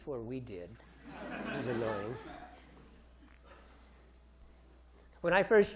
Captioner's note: audience laughing